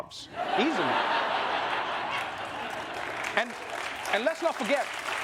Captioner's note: laughter; applause